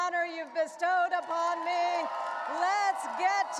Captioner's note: audience cheering and applauding